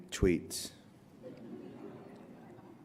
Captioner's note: laughter